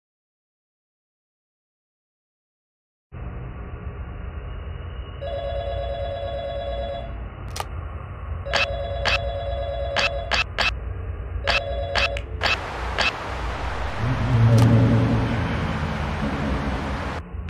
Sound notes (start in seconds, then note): 5.2 phone Ringing